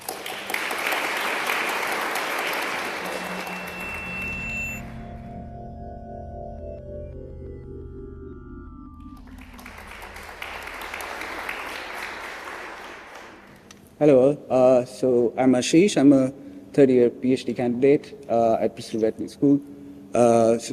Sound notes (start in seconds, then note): 0.0 applause; 2.9 drone-like music; 9.0 applause